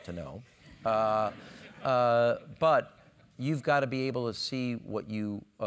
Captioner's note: laugh